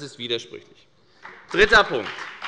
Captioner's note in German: Beifall bei der FDP